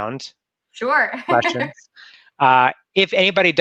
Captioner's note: laughs